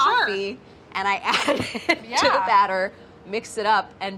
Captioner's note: laughing